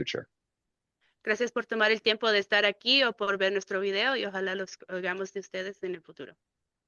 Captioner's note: speaking in Spanish